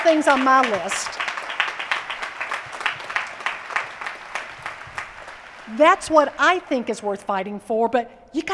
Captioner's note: applause